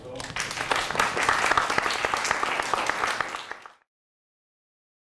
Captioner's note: audience applauds